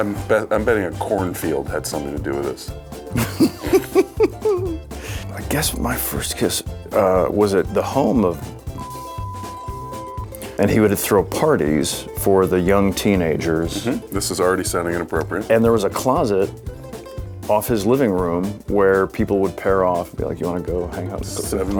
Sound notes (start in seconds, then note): 3.1 Nick laughs; 8.8 beep